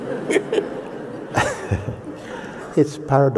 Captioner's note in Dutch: gelach